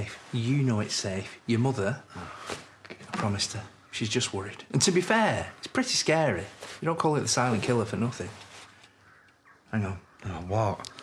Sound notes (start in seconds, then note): 2.1 sighs